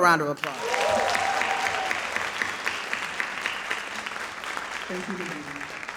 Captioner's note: audience cheering and applauding